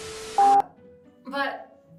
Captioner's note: static hissing; beep